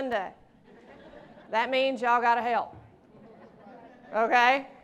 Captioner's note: laughter